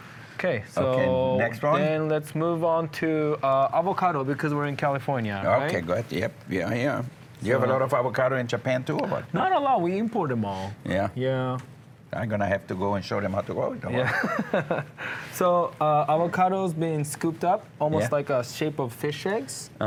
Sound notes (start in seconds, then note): 14.0 chuckles